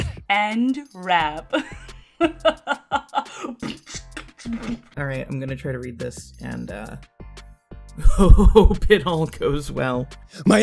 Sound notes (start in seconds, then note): 2.2 evil laugh; 3.6 beatboxing